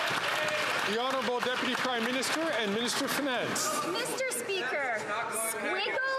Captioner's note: some Applause